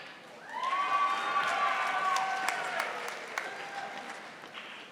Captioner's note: audience applauding